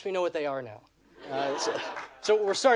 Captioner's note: audience laughing